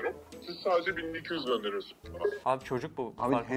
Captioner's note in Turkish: Telefon